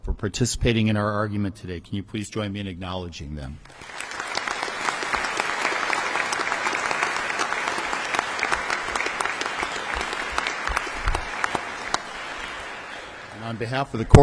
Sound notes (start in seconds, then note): 3.6 audience applause